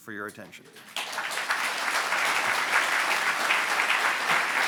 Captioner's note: audience applauds